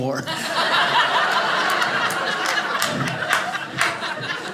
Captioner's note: audience laughing